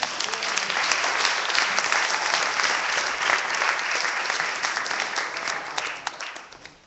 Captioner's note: clapping